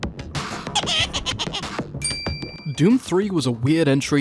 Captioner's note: intro Laughter